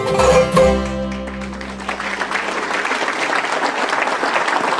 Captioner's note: audience applauding